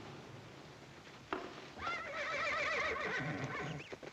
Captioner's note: horse whinnies